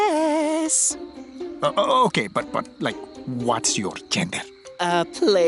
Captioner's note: stammers